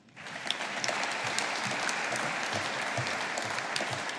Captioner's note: audience applauding